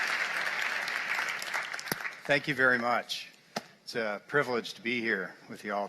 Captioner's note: applause